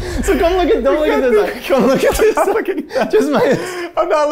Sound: laughing; all laughing

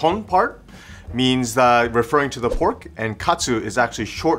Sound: air whooshing

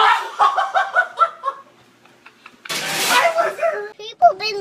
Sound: laughing

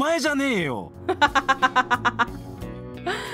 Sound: laughs

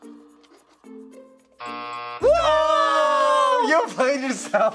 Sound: buzzer

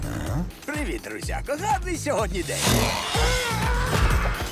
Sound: hisses; exclaims

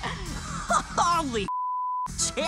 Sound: laughs; beep

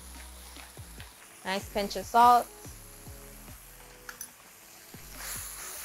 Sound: leaves sizzling

